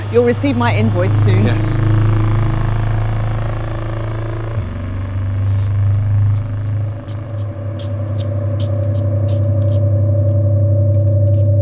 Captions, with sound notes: You'll receive my invoice soon. - Yes. (feet shuffling)